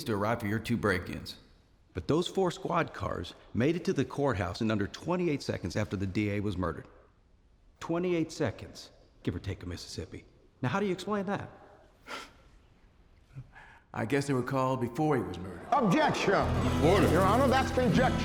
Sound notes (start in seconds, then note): 11.9 scoffs; 15.8 people murmur loudly